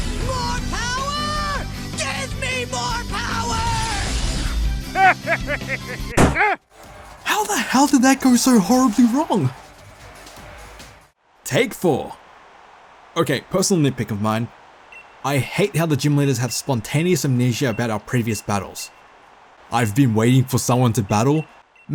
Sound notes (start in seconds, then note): 6.2 pop